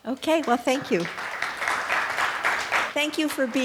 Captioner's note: audience applauding